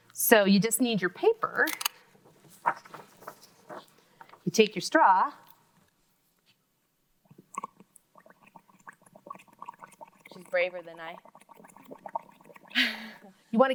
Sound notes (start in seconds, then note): 8.1 bubbles gurgling; 13.1 laughs